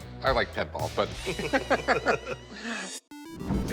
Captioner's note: both laugh